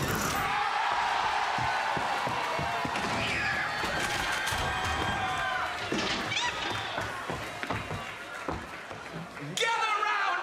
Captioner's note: cheers & applause